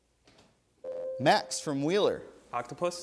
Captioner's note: ding